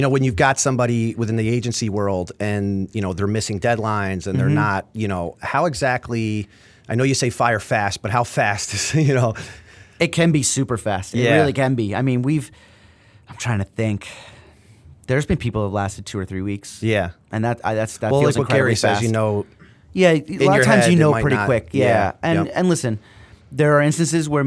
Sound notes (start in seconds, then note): 8.8 chuckle